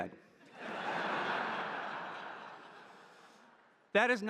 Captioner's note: audience laughing